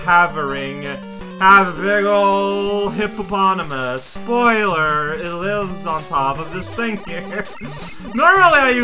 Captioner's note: starts to laugh